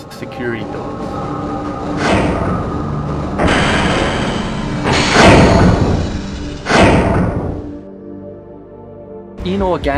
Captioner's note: in game audio of a giant mechanical door slamming shut